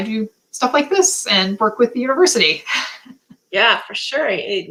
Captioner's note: laughter